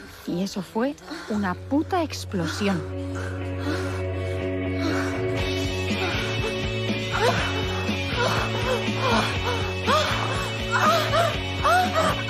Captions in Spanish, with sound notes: Y eso fue una puta explosión". (Gemidos en crescendo)